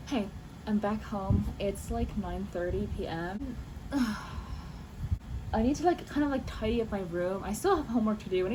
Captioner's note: sigh